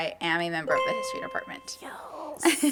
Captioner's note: chime